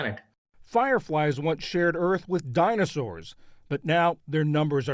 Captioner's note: voice-over